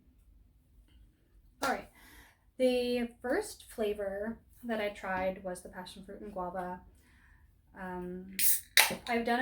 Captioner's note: clap